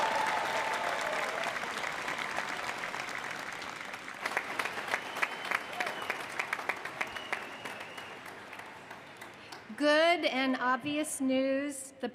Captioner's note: applause